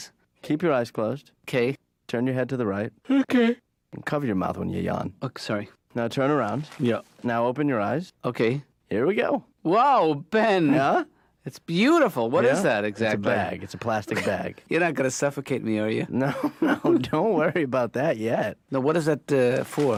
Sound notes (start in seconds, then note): 3.0 yawning